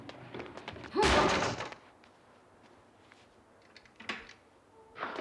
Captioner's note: bangs; grunts